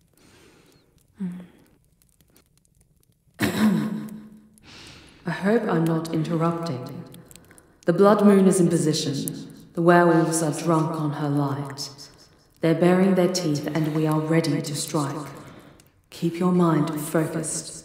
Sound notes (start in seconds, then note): 3.0 You hear someone clear their throat loudly, realizing it is Shiloh's voice